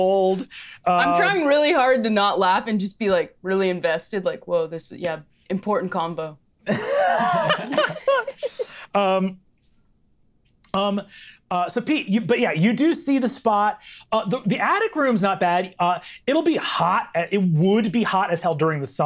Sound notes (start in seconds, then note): 6.7 players laughing